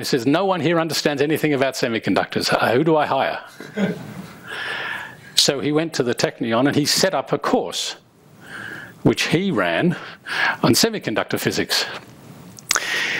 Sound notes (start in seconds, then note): 3.6 crowd chuckles